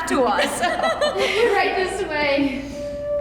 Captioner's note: laughter